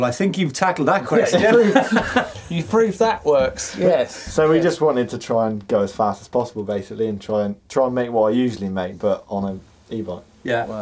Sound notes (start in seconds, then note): 1.2 laughing